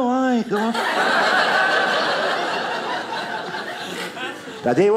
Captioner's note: audience laughing